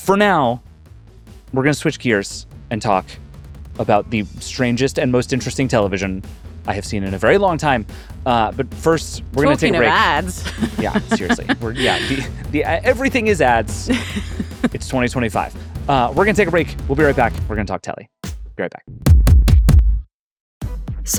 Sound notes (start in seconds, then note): 9.4 laughing; 20.6 upbeat music